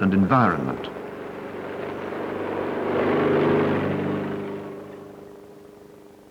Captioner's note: corn field, vehicle approaches